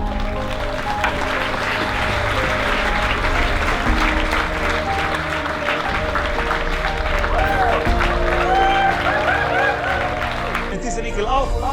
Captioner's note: applause